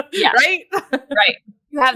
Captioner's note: laughs